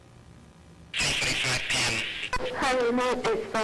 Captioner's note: voiceover